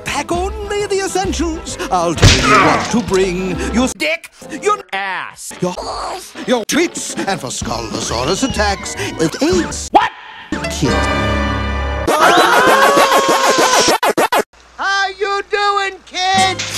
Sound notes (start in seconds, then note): 12.0 Pacman Noises; 12.1 screaming